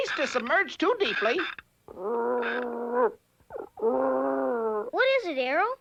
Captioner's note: Arrow howling